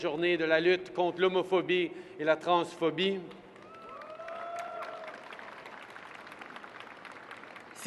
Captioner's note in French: Applaudissements